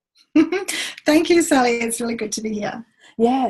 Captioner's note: laughs